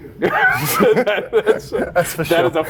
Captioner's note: both laughing